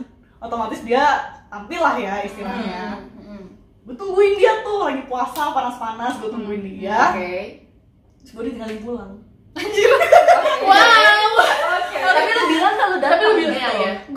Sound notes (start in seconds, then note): 9.7 laughing